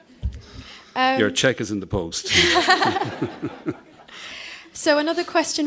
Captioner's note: laughter from the audience